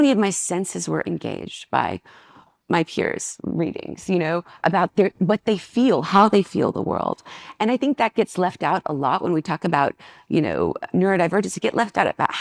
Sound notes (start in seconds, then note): none